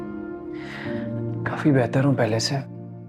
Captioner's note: sudden deep breath sound